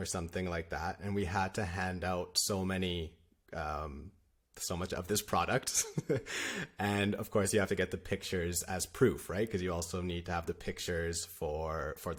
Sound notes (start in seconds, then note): 5.7 laughter